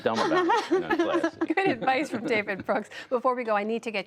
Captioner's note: laughter